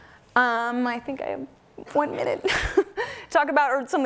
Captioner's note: laughs